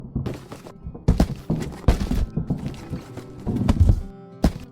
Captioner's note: box explodes; box shaking